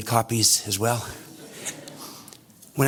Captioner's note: audience laughter